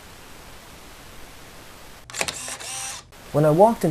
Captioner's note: camera Click